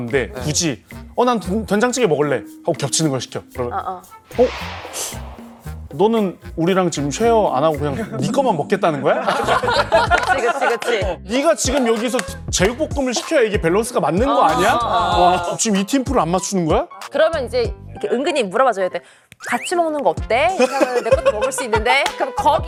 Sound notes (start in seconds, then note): 4.3 inhales sharply